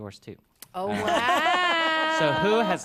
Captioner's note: laughs